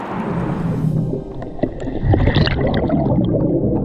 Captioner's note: water bubbling